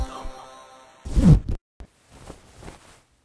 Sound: unzip

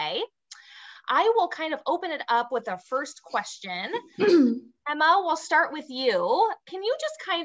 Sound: clears throat

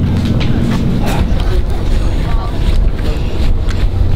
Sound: breathes heavily

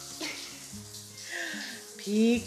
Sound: chuckling

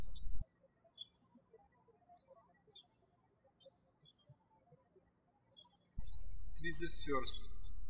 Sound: birds chirping

